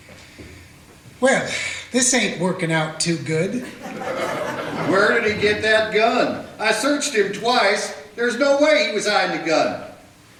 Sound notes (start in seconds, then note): 3.6 audience laughter